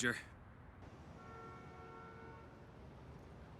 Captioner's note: horn honking